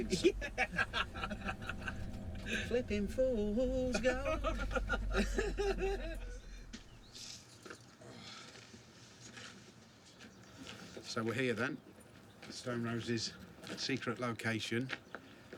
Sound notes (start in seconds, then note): 3.8 both laugh